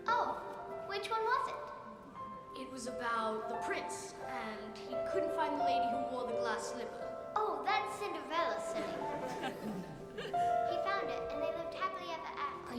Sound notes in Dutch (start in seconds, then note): 8.8 lachend